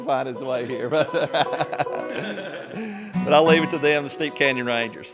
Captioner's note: laughter